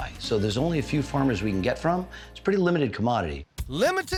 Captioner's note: none